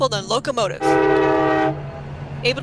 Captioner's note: train whistle blows, locomotive rumbles